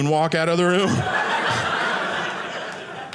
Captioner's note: audience laughing